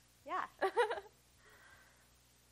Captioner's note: laughs